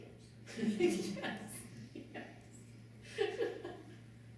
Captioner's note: laughing